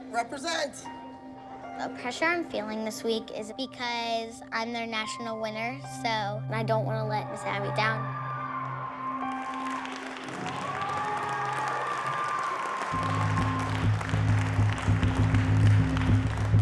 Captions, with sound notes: Represent. The pressure I'm feeling this week is because I'm their national winner, so... And I don't want to let Miss Abby down. [audience cheers and applauds] [tense music plays]